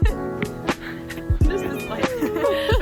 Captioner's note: laughs; sighs; both laugh